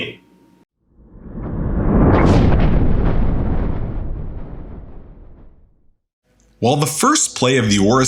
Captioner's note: thunder